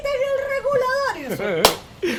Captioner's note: laugh